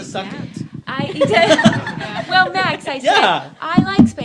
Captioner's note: laughs